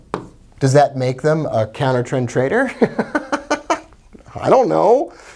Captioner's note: laughs